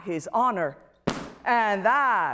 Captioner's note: pounding Sound